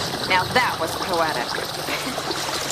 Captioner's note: laughs